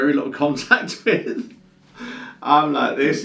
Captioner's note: laughs